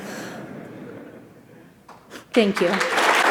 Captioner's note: cheers and applause